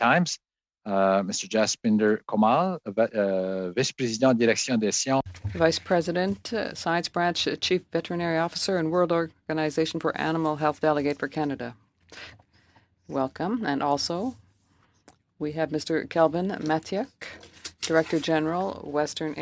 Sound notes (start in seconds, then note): 12.7 speaking French